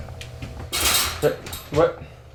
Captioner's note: loud clanging